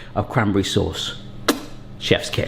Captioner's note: lips smack